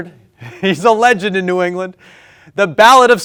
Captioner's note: laughs